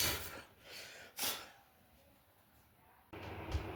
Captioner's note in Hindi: नाक से की जाने वाली आवाज़